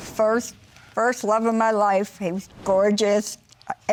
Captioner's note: none